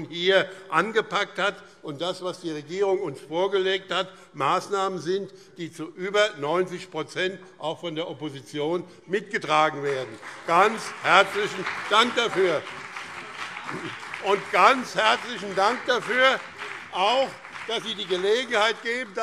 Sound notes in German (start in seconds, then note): 12.4 Beifall